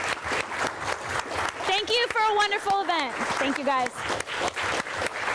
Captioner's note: applause